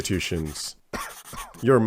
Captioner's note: cough